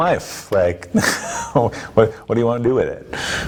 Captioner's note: laughing